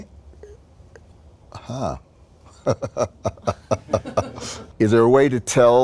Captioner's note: chuckles